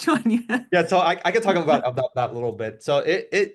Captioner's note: laugh